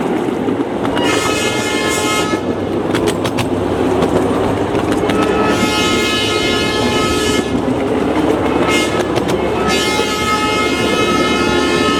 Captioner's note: train blowing horn for grade crossing